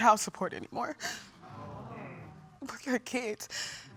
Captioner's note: audience exclaiming in shock